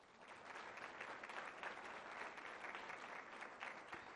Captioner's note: applause